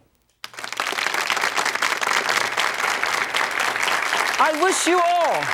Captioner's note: audience applauding